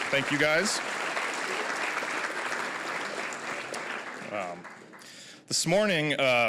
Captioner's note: applause